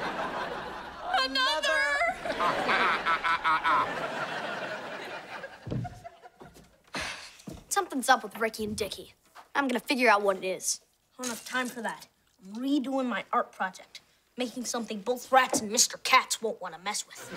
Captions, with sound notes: - Another. - Another. Ah, ah, ah, ah, ah, ah. [sighing] Something's up with Ricky and Dicky. I'm gonna figure out what it is. I don't have time for that. I'm redoing my art project. Making something both rats and Mr. Cats won't want to mess with,